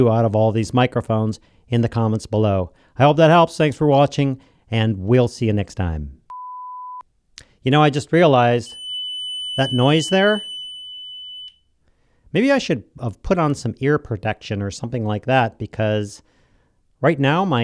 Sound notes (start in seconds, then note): 6.3 beeping; 8.6 tone generator beeping